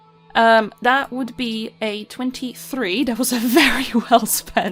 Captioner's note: laughs